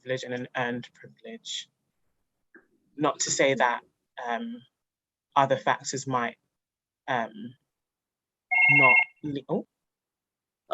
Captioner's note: phone rings- sorry!